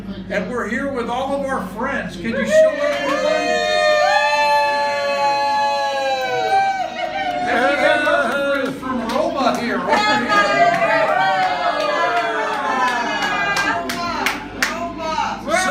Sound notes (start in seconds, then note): 2.4 cheering; 10.8 cheering continues